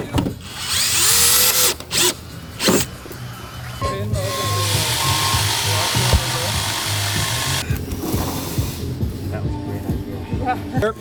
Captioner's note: construction noise